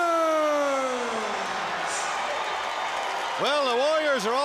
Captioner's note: crowd cheering